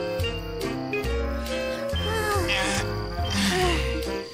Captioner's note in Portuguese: suspiros